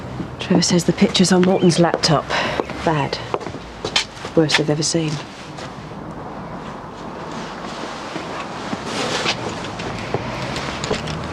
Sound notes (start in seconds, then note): 0.0 traffic whooshing; 6.0 traffic whooshing